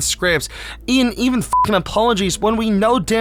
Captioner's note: beep